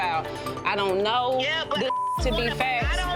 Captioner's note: beep; beep